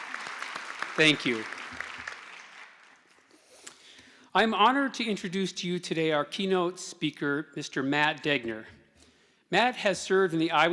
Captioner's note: applause